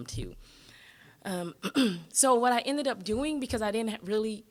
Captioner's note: clearing throat